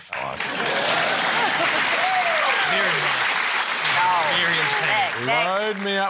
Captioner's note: cheering, applause